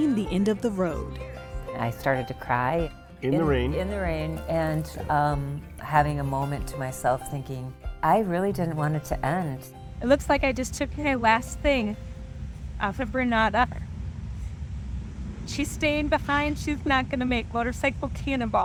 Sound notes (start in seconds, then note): 8.7 choking up